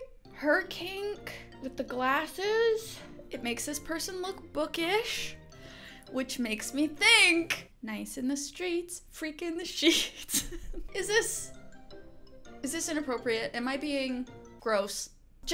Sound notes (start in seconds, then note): 10.1 chuckling